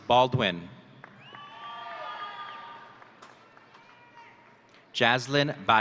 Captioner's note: audience cheering